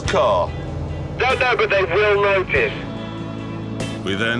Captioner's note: Richard on radio